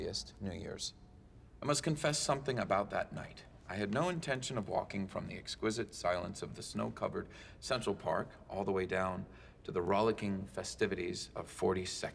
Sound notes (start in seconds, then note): none